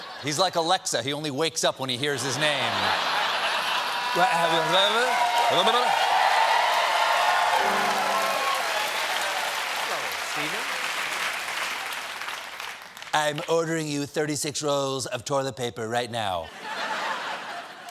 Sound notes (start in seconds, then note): 2.2 laughter; 2.8 cheers and applause